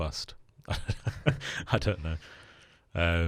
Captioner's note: laughing